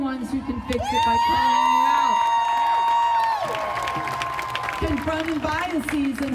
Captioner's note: crowd cheering and applauding